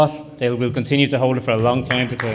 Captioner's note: applause